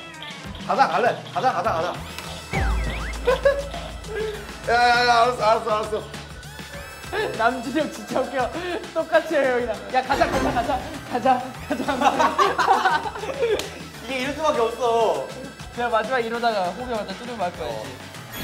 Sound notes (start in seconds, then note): 10.1 bang bang